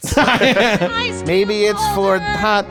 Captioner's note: laughing